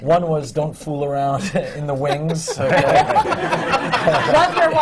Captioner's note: laughter